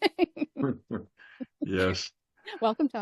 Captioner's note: laughing